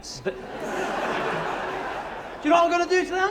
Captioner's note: laughter